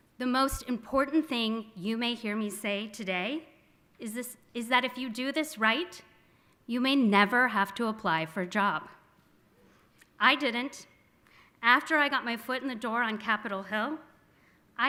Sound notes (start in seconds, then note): none